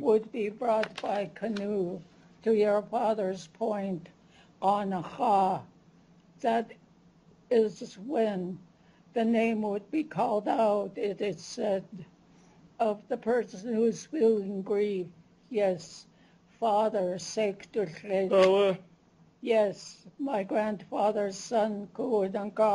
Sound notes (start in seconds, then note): 4.8 non-english; 16.4 non-english speech; 21.4 non-english